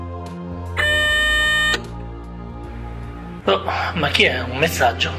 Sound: phone message sound

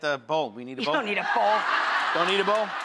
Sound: audience laughing

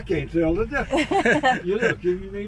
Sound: both laugh

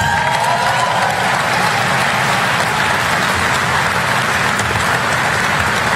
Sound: applause

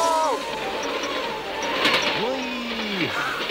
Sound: laughs

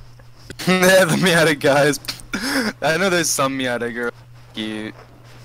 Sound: chuckling

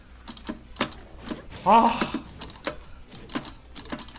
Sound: ahhh intensifies

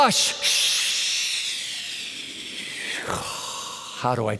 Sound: hissing

